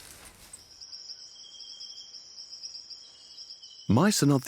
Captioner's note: insects trill